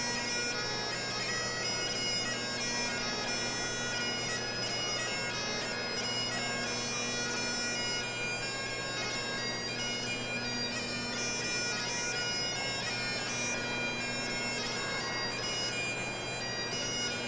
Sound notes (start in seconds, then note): none